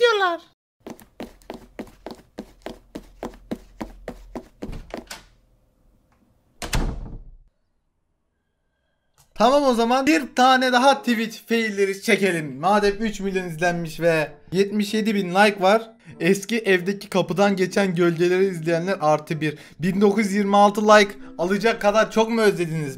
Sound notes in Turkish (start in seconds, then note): 4.5 Kapı Sesi